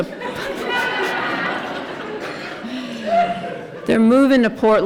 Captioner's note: laughter